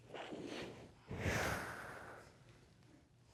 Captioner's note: exhales